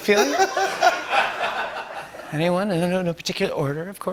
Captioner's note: laughter